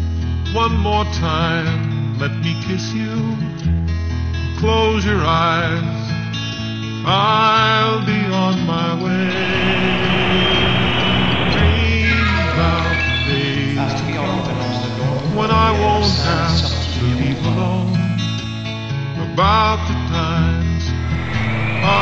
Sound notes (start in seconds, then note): 9.4 jet engine, P.A. annct; 20.9 jet engine